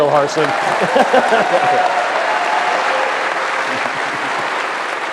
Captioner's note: applause